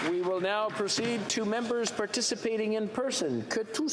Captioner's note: applause